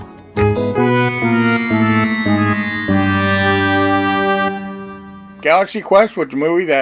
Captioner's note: birthday music; fail sound effect